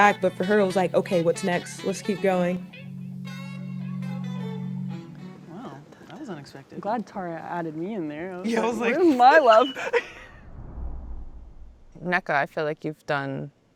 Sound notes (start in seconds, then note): 2.9 soulful jazz music; 10.0 women laughing